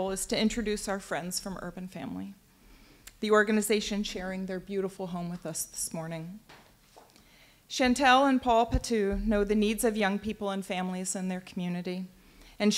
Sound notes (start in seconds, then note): none